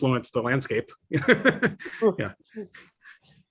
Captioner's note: laughs